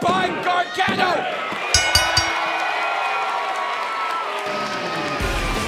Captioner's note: bell ringing